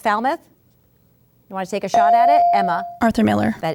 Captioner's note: ding